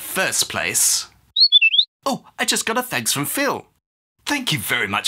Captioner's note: whistle blows